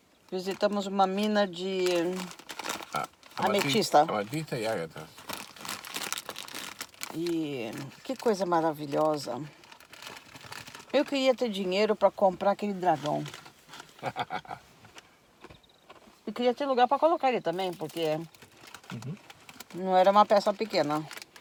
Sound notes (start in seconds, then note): 13.9 laughs